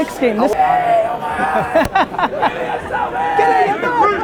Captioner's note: Gary laughs